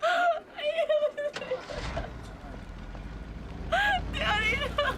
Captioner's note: sobbing incoherently